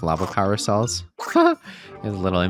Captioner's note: laughs